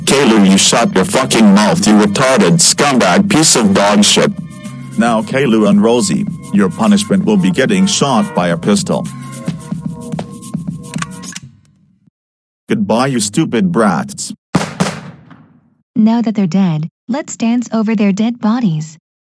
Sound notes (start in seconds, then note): 9.4 footsteps; 10.9 gun loads; 11.5 music abruptly stops; 14.5 gunshots